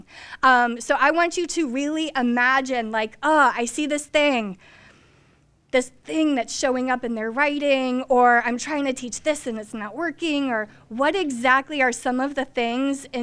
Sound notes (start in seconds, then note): none